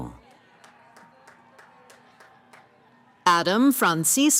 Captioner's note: cheering